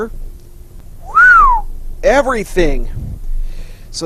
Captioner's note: whistles